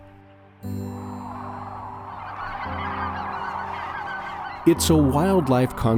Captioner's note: cranes calling